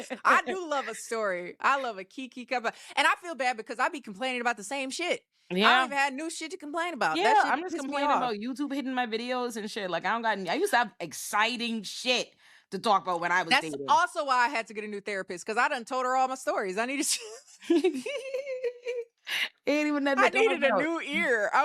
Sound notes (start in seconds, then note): 16.8 laughing